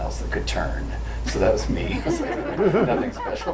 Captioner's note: group laughs